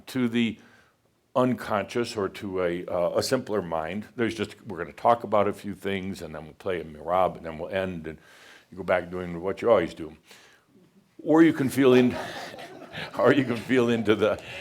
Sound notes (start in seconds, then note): 12.1 some chuckles